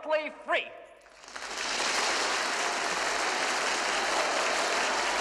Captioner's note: Зрители аплодируют